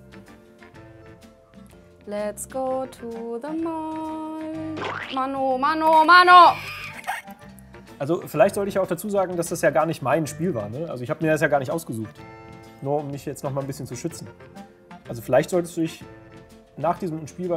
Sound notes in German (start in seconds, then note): 4.8 Pflatsch; 6.3 lacht